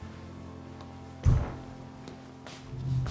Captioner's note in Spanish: ruidos sordos